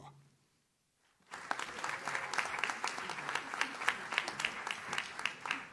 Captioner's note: audience claps